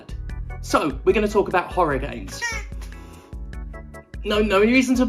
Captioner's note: squawk